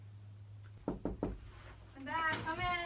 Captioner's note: knocks on the door